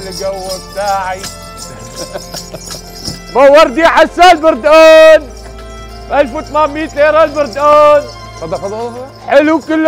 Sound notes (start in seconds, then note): 3.3 shouting